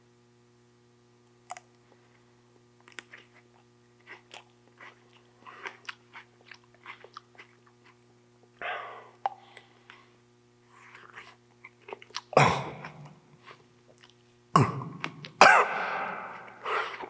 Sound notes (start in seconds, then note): 2.8 teeth crunching; 12.8 Jacob coughing